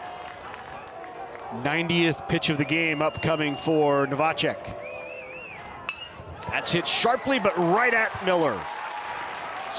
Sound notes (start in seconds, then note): 5.8 bat dings; 8.8 fans applaud